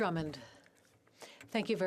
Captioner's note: speaking French